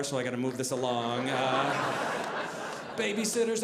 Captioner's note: audience laughing